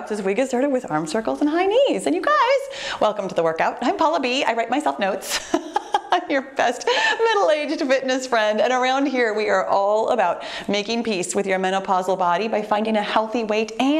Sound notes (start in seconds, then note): 5.2 laughs